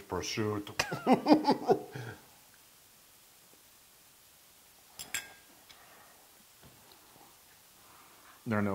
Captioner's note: laugh